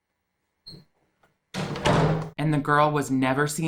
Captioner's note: door slams